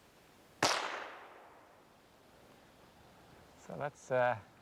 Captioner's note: gunshot